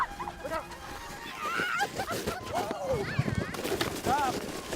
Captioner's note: sled scrapes; children squeal